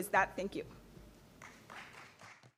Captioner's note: applause